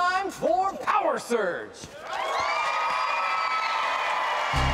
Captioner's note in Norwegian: jubel og applaus